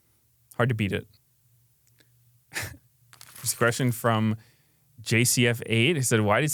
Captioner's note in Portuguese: risos